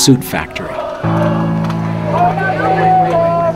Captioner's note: chanting in Spanish